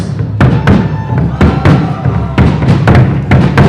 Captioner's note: cheering; drums playing